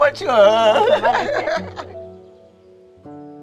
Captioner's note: both laughing